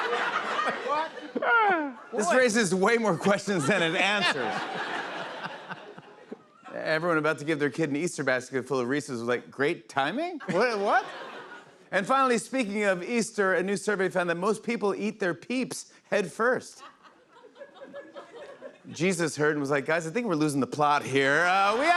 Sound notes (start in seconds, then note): 3.1 laughter